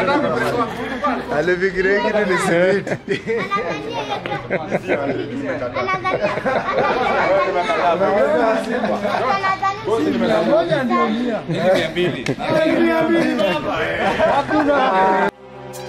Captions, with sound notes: (Laughs) He thought this was a bag of cement (Laughter)